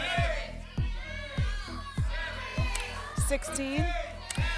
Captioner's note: audience shouting numbers